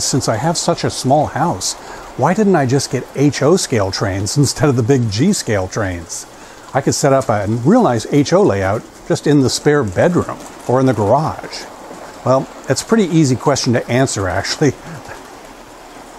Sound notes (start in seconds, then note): 14.6 chuckles